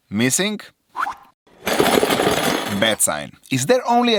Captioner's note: glass shards